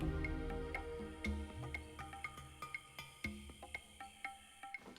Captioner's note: insects Buzzing, Chirping